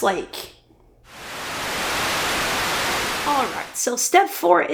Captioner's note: Static